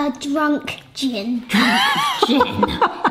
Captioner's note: laughing